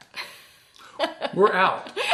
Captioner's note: laughs